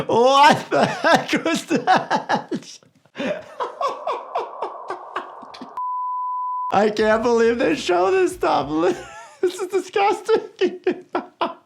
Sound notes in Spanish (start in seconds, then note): 3.1 el doctor se ríe; 5.3 pitido del beeper; 11.4 el doctor se ríe